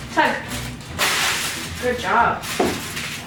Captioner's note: tinfoil ripping